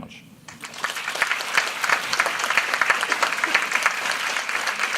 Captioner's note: applause